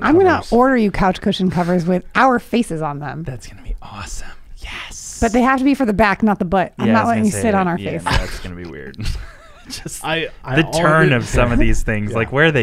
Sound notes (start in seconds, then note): 8.9 laughing